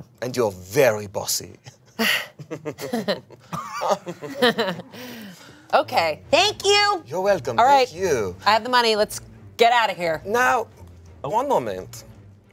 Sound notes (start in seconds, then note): 1.6 laughs; 1.9 sighs and chuckles